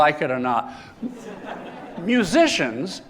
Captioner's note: laughter